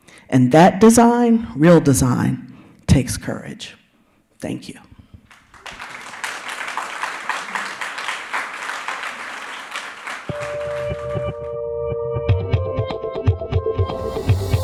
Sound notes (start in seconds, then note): 5.3 audience applauds; 10.3 soft futuristic music